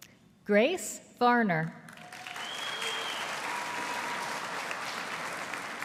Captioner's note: audience applauding